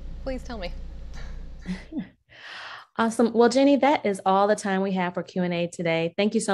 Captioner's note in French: rires